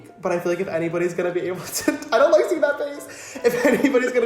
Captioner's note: laughs